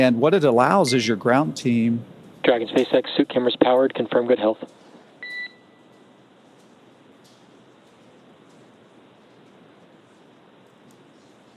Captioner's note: beep